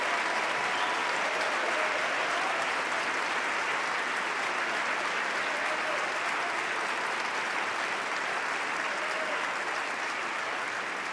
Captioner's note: applause